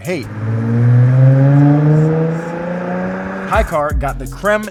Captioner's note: engine car roaring